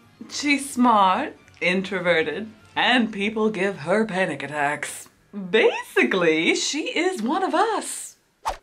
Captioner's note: none